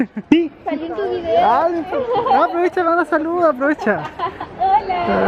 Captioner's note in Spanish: risas